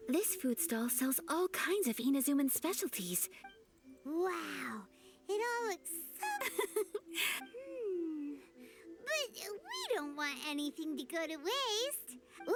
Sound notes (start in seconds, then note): 6.2 laughs